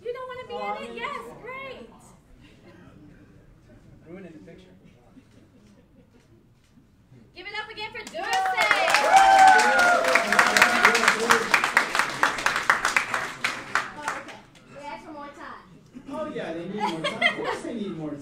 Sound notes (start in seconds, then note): 8.0 cheering and applauding